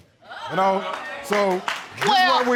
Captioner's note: audience exclaiming